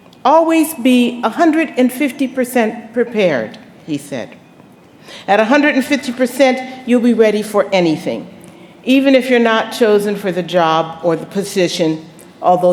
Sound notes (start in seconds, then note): none